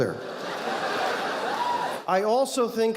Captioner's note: audience laughing